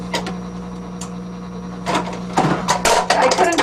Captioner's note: machine whirring; clicking